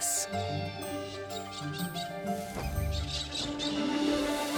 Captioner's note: tweeting and squawking